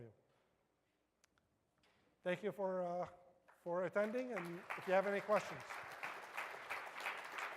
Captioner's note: applause